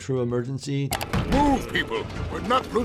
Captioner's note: window clicks into view